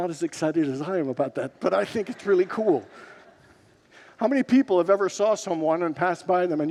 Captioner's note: congregants laugh